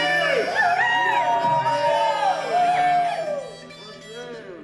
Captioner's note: shouting